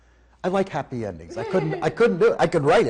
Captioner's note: laughing